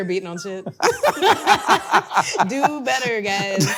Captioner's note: both laughing